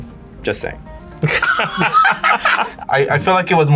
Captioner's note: laughs